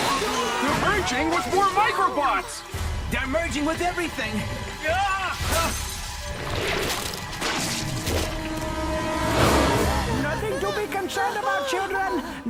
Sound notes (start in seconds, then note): 5.0 technician screaming; 9.8 children whimpering